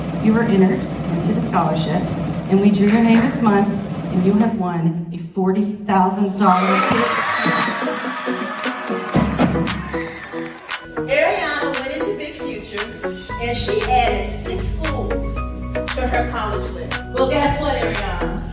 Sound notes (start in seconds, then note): 6.5 cheering, applause